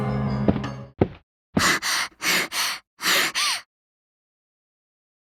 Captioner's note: out of breath